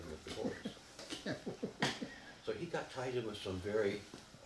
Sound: laughing

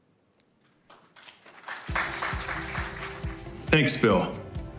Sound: audience applauding

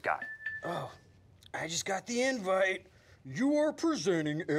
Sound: phone ringing

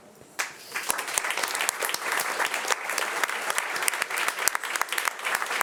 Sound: audience applauding

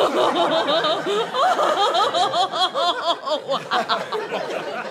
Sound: crazed laughter

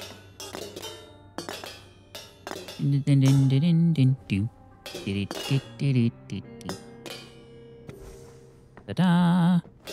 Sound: humming

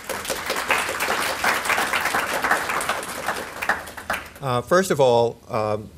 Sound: applause

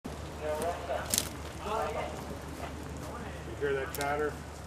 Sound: indistinct chatter

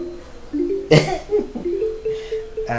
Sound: chuckles

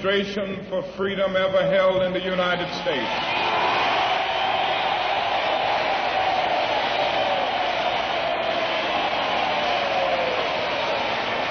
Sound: applause

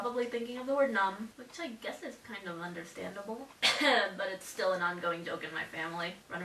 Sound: cough

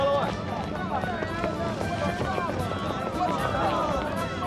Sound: townspeople chatter; dramatic music

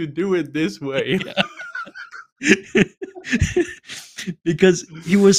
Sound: laughter

